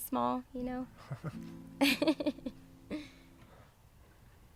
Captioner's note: laughing